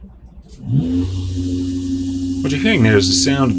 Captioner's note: motor whirring